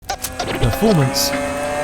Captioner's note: engine revving